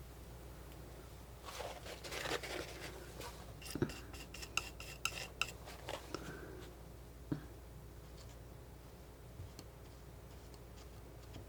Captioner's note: scratching